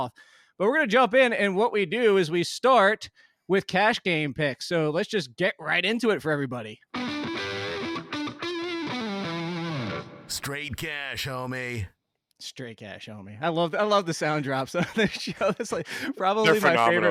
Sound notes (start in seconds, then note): 6.9 upbeat rock guitar riff; 10.4 voiceover; 14.8 laughs